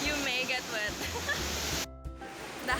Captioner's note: laughs